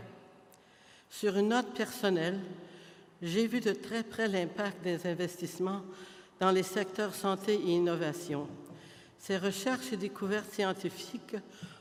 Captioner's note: French